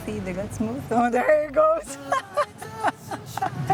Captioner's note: laughs